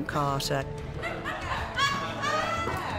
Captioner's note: all laughing